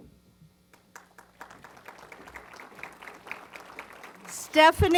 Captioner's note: applause